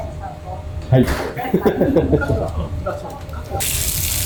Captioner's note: laughs